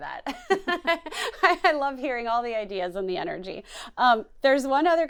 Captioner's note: laughs